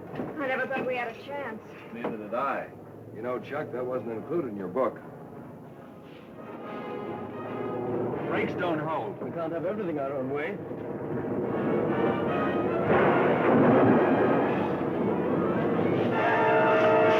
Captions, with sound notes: - I never thought we had a chance. - Neither did I. You know, Chuck, that wasn't included in your book. - Brakes don't hold. - We can't have everything our own way. (plane slamming) (dramatic music)